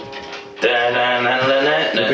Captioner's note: mimics guitar